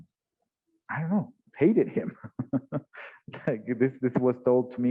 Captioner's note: laughs